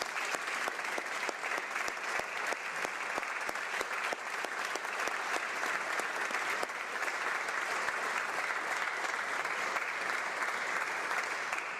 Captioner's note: applause